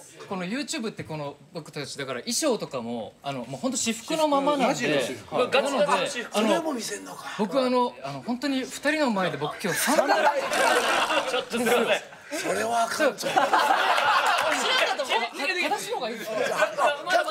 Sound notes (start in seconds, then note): 9.6 laughs